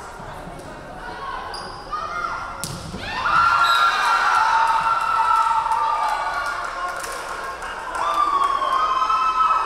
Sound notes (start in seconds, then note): 3.0 crowd cheering; 3.6 referee whistling